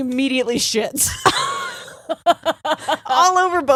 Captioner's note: both laughing